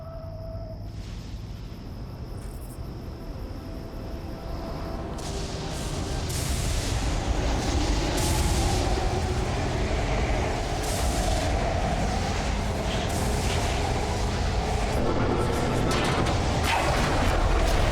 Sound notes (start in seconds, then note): 4.6 lightning storm; 7.2 wind whooshing